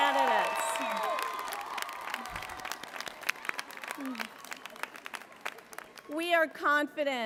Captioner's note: applause